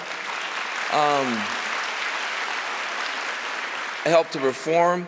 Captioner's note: applause